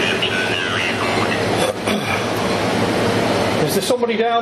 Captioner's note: Ovilus powering